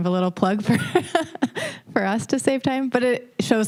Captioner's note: laughing